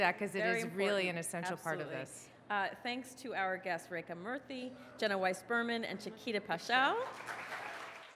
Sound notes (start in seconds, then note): 7.0 audience applauds